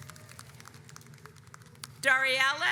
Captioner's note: audience applauds